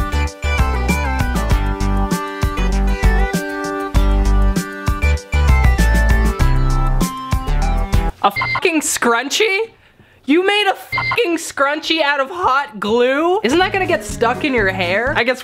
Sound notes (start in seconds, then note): 8.2 beep